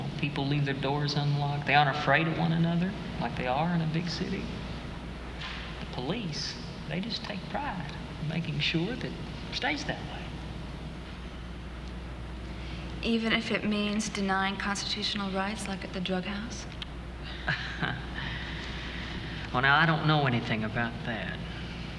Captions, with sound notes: You know, people leave their doors unlocked, they aren't afraid of one another like they are in the big city. Police, they just take pride making sure that stays that way. Even if it means denying constitutional rights like at the drug house? [chuckles] Well, now, I don't know anything about that.